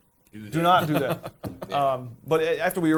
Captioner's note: laughing